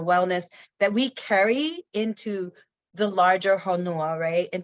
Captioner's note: speaks in foreign language